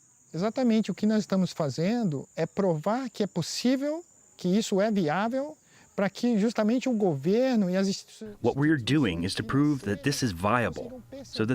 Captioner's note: through translator